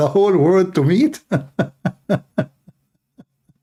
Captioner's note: Ketawa